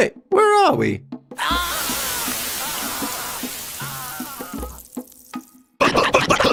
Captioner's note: Portable Music Player disolves, a fizzing noise plays as he vanishes